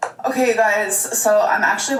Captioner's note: laughs